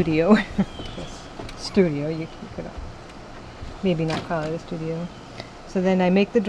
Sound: laughing

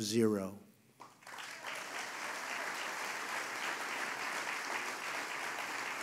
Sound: applause

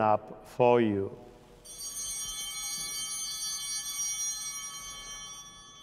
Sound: chimes ringing

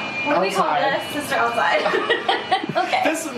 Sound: laughing

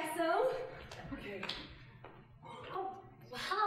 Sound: exhaling nervously

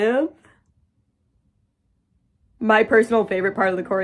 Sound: pained silence

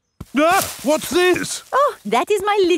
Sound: exclaims

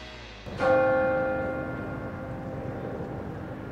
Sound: bell Rings

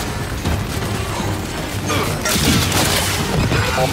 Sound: gunshots

